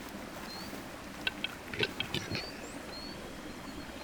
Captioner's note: birds clucking